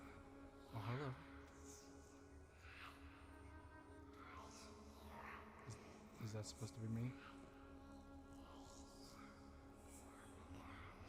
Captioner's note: whispers